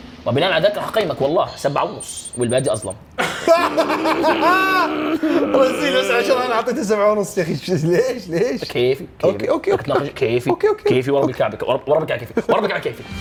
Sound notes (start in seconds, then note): 3.2 laughs; 4.1 groans